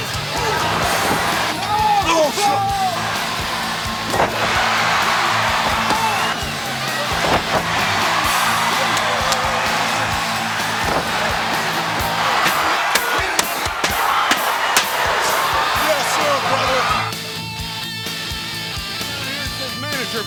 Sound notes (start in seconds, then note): 4.9 crowd cheering; 12.7 thudding chairs; 17.9 rock music